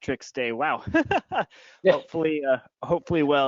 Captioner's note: laughing